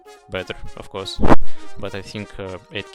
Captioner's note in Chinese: 喷麦x1